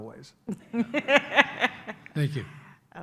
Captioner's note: laughs